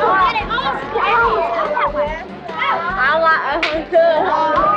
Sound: children chattering

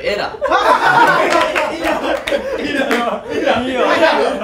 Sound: laughters

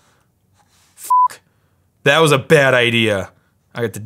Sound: beep

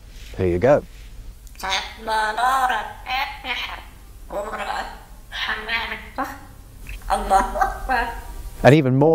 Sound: Mudalal the parrot speaking Arabic

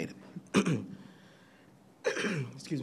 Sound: clears throat

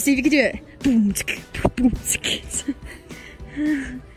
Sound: beat-boxing

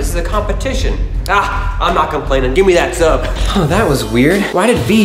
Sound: none

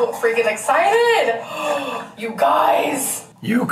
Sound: gasps

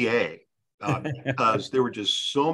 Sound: panelist chuckles

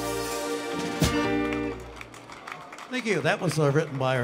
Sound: crowd applauds

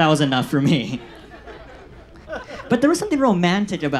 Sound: audience laughs

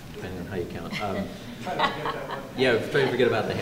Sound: laughter

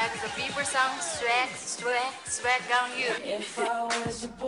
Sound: speaks in Mandarin

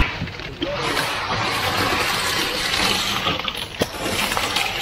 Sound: concrete pouring

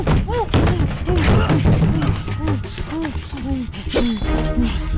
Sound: groaning

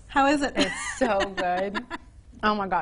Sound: woman laughing

